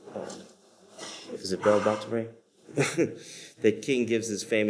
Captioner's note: laughs